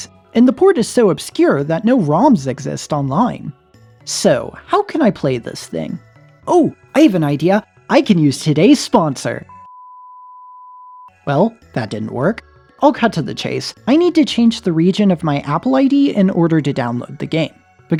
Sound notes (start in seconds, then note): none